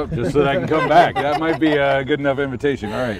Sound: laughing

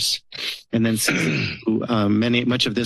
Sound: clearing throat

